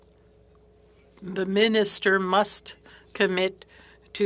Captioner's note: speaking French